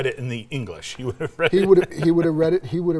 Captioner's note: laughs